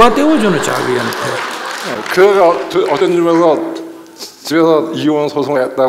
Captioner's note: audience Laughter/Applause